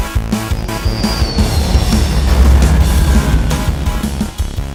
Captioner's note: jet engines roaring